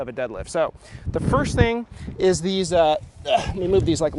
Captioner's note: groan